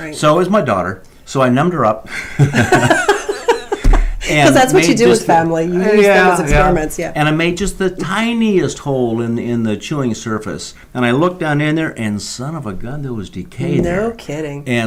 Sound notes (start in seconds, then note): 2.1 laugh